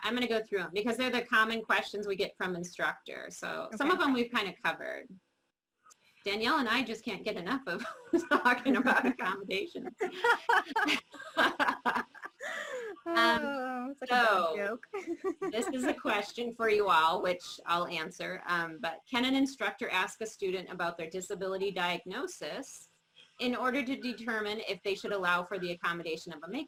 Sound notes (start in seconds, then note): 13.0 laughing